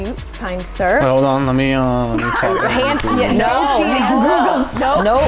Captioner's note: speaking in foreign language